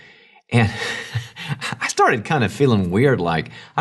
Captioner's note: laughs